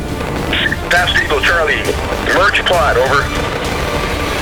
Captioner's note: voiceover